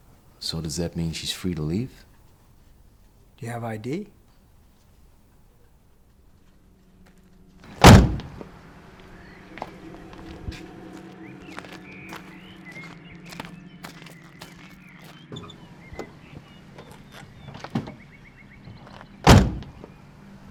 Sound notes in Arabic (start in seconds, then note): 7.2 زقزقة الطيور; 7.6 موسيقى مشؤومة